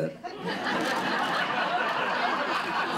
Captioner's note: laughter